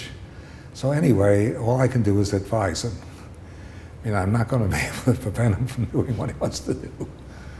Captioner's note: laughter